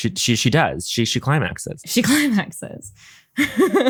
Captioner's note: laughs